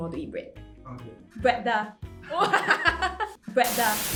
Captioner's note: laughter